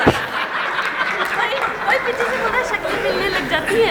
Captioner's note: laughing